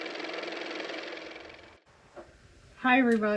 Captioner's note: car motor